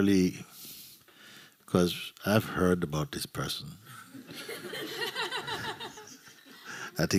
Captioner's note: laughter